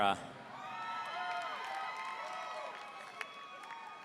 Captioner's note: audience cheering